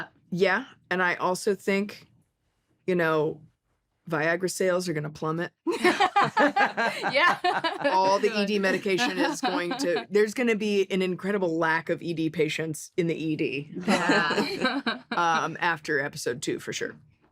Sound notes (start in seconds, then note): 5.7 laughter; 13.8 laughs